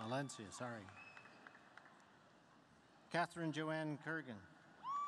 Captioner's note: applause